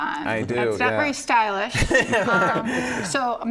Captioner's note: laughs